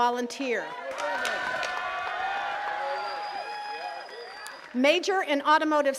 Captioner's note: attendees cheering and clapping